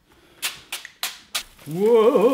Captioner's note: oil splashing